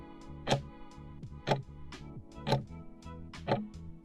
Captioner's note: timer ticking